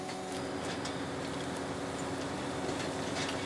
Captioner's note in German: Maschinenlärm